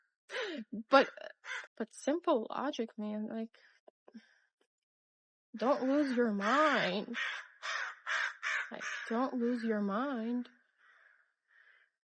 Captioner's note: cawing intensifies